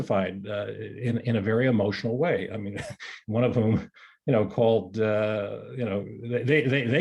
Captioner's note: chuckles